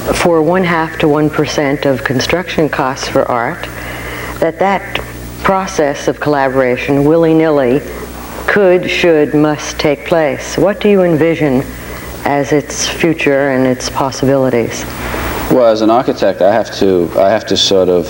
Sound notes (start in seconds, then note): none